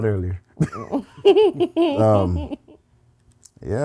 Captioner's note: laughing